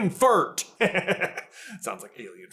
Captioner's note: giggles